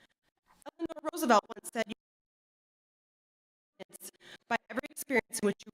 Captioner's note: audio cuts out